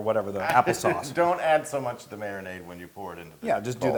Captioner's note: laugh